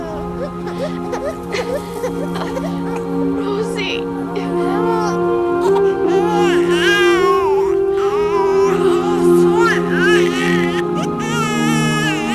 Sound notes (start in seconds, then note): 0.0 crying; 9.4 crying